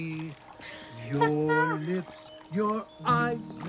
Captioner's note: chuckles